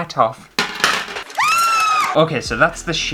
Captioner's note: scream